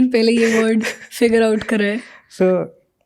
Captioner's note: speaks in Hindi